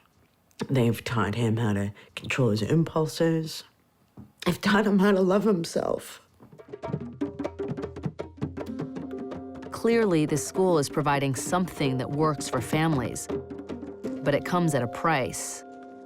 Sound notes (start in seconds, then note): 3.9 voice breaks; 7.3 drumming